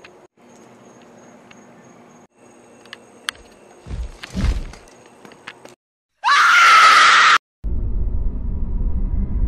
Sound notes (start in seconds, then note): 3.8 loud Footsteps; 6.2 screaming